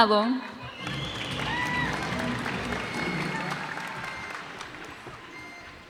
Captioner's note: cheers and applause